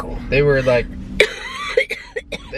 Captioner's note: coughing